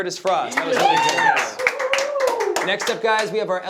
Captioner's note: clapping